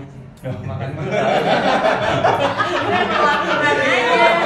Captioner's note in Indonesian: tertawa